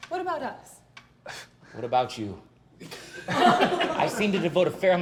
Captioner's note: laughter; laughs